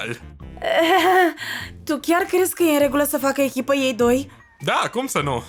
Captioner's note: laughs nervously